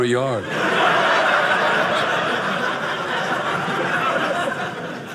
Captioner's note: audience laughing